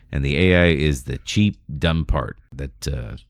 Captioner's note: uh